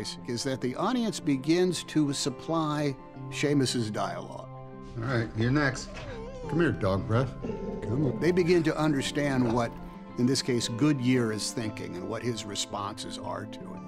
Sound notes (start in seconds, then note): 5.0 Goodyear growling; 5.6 dog whimper